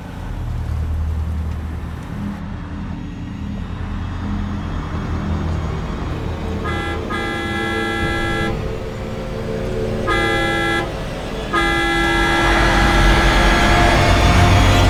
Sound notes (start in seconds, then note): 6.2 horn honking; 12.0 tires squealing